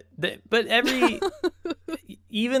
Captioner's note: chuckles